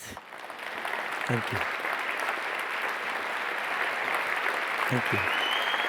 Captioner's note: audience applauds